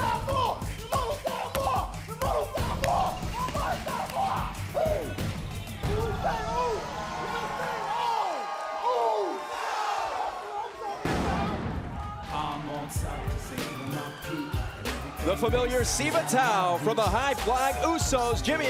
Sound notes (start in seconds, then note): 7.2 crowd cheering